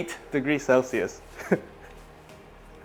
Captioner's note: chuckles